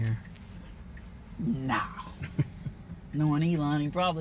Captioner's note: laughs